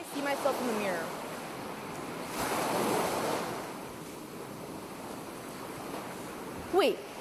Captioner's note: waves get louder